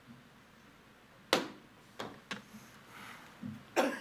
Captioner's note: gavel thuds; chairman coughs